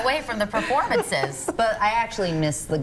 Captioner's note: laughter